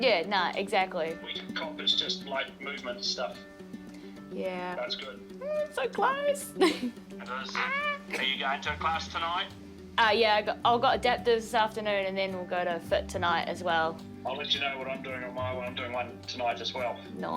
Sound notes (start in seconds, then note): 6.6 chuckles; 7.5 exclaims